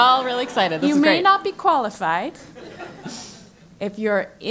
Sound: laugh

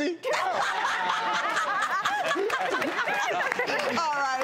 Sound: laughing

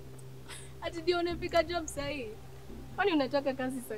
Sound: in swahili

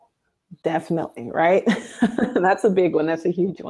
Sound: laughs

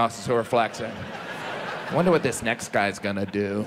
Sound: audience laughs

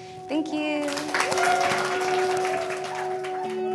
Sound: applause

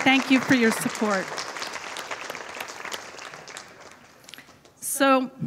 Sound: audience applauding

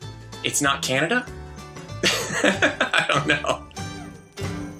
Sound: laughing

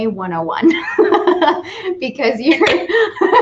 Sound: laughs

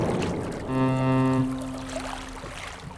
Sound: ferry horn blows

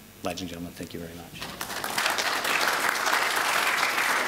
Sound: applause

